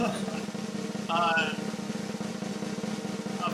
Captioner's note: laughs